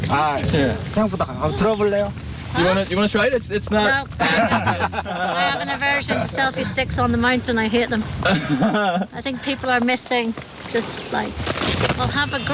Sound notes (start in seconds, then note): 4.1 laugh